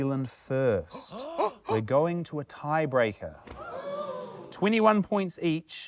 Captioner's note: gasps